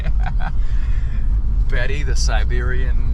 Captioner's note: laughs